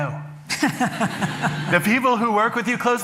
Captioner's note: laughter